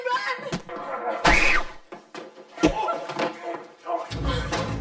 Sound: groans; screams; groaning

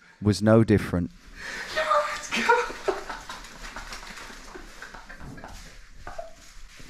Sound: shouting; both laughing

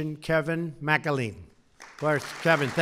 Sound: applause

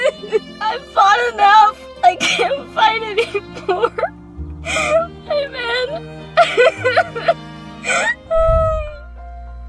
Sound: sobbing; piano music

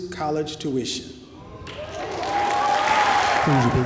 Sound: applause

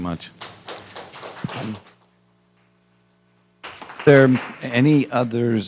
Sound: applause

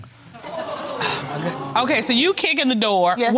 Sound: audience gasping

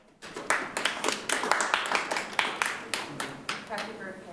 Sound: clapping

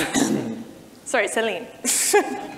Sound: chuckles

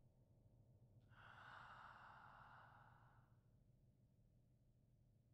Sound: person exhaling

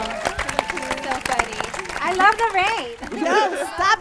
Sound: audience cheering

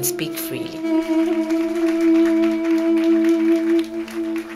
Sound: applause

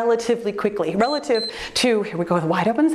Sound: timer beeps

